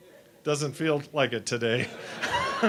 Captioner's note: laughter